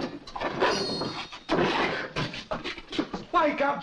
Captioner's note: knife blade scrapes